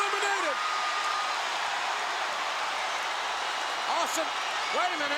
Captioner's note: applause